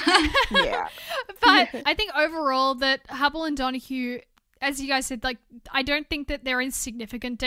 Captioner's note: hosts laugh